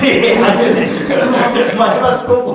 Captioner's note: laughing